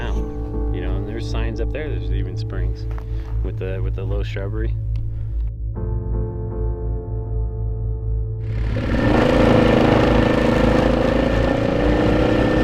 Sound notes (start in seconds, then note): 8.4 ATV rumbling